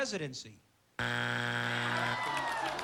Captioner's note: buzzer